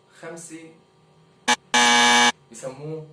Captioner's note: buzz